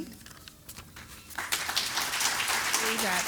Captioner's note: applause